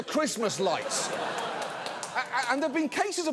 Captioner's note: studio audience laughs